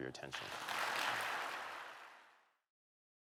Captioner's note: applause